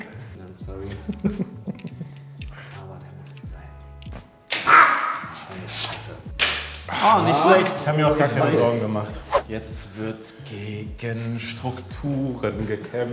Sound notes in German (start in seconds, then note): 9.2 woosh